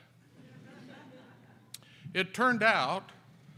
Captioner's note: audience laughs